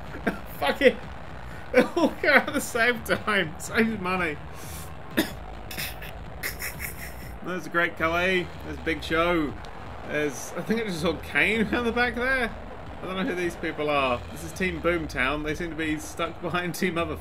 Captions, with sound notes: Fuck it... they all come out at the same time, saves money! (choking on laughter) There's the Great Khali, there's Big Show... There's... I think I just saw Kane around the back there? I don't know who these people are. This is "Team Boomtown". They seem to be stuck behind Team Other Thing.